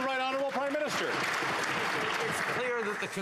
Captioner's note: applause